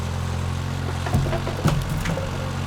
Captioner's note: wood thuds; engine revving continues